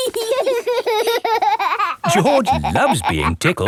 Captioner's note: laughing